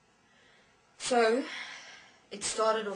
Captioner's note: sigh